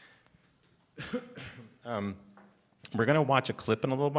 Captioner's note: coughs